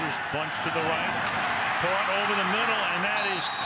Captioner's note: pa announcement